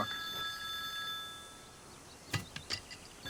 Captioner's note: phone rings